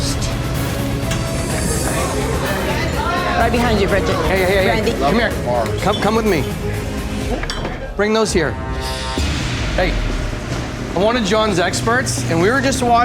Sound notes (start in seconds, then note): 0.2 dramatic music; 1.2 chatter